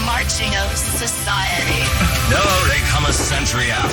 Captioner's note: marching